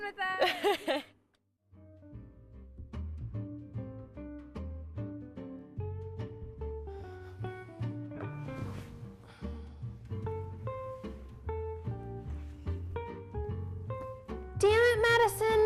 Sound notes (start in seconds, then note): 0.4 chuckling; 1.6 pleasant mellow music; 7.2 sighing; 8.3 rustling